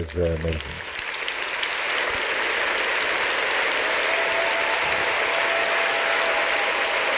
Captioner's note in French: applaudissements